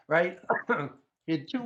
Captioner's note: coughs